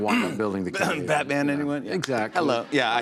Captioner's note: coughing